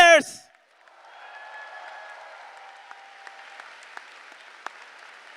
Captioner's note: applause